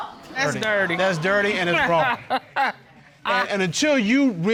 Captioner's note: laughs